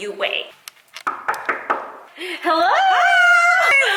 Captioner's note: knocks on door